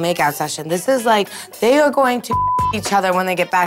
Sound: beep

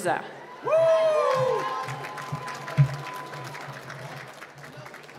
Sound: cheering and applause

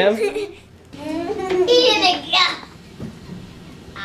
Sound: laughs

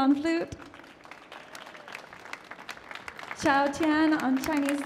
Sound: applause

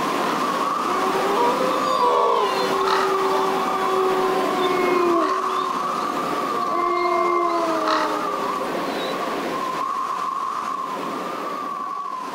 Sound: wind blowing

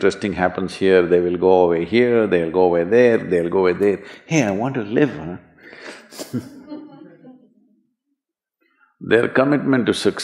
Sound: few laugh

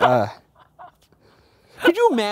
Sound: laughing

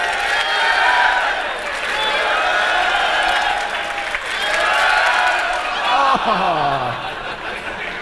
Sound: cheering, applause, and shouting

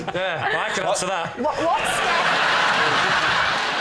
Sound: laughter

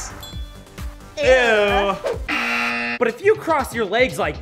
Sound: buzzer goes off

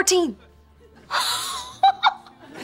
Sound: laughing

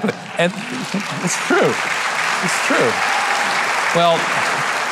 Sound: audience applauding; audience cheering

